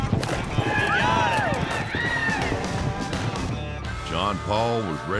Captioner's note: cheering